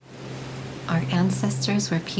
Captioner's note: ocean riffling